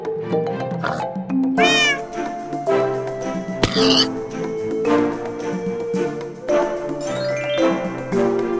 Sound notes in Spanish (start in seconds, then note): 0.8 Sonido de un cerdo de Minecraft; 1.6 Sonido de un gato de Minecraft; 3.6 Sonido de un cerdo muriendo del Minecraft